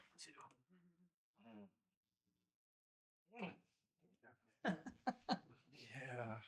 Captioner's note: laughs